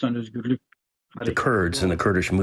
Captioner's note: through translator